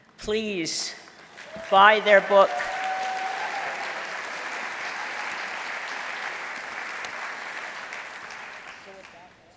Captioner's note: applause